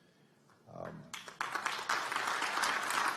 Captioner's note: applause